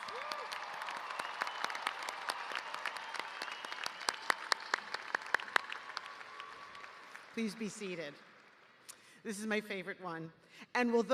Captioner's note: cheers and applause